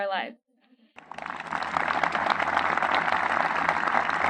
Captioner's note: clapping